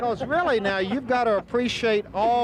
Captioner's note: laughing